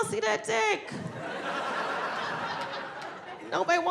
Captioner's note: audience laughing